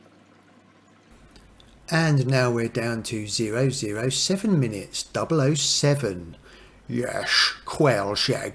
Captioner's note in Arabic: لهجة شون كونري